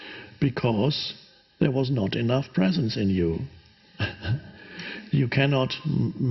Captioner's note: chuckles